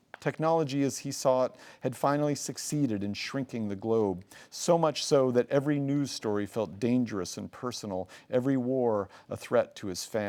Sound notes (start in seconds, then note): none